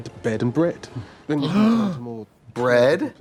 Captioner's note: Katya gags; Katya gasps